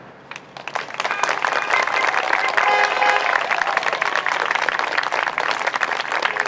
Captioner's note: crowd applauds; horns honk